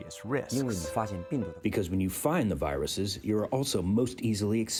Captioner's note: through translator